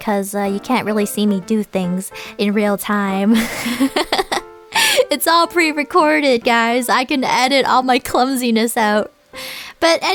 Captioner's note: Froggie laughs